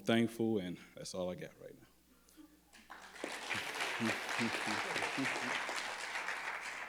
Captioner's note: crowd clapping